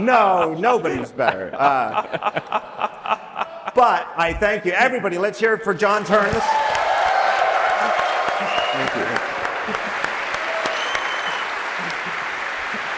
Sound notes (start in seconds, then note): 6.0 audience cheering; 9.8 applause